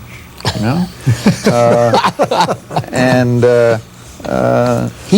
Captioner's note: laughter